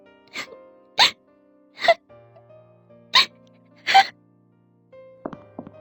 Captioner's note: crying